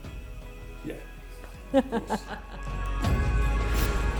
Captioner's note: laughs; dramatic music